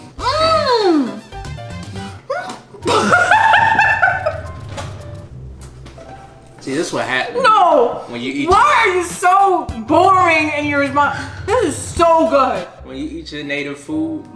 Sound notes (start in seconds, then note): 0.1 celebratory music; 2.8 laughing